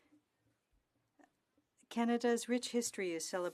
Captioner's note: speaking French